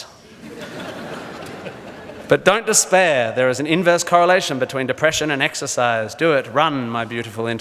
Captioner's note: audience laughs